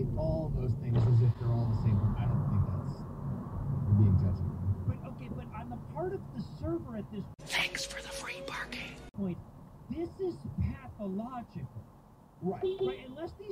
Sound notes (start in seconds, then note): 7.9 whisper; 12.5 beep beep